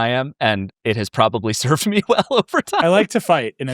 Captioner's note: laughs